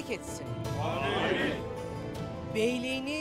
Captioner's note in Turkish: Hep bir ağızdan